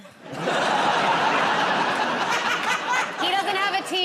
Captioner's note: laughter